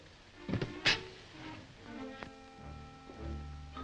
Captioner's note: door opens